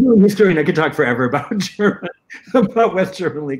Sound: laughter

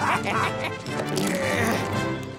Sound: laughing; grunting

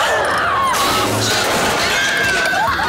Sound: screaming

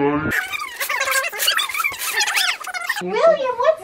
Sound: screeching

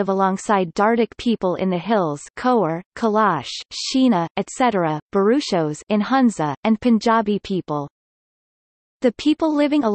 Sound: in Hunza

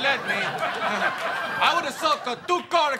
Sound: audience laughs

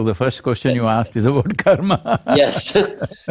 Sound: laughs

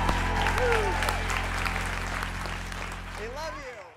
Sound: audience applause

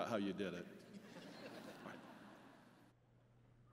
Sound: laughter

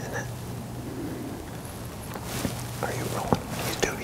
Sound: whispering

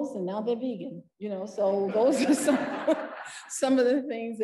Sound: parent laughing

